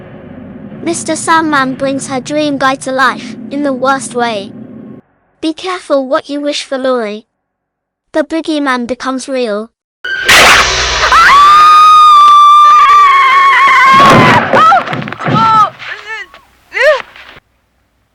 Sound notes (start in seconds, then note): 11.0 Laurie screams